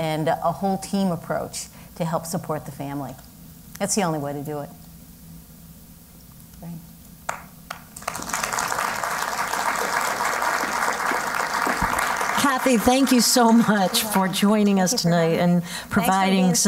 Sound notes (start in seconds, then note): 7.7 applause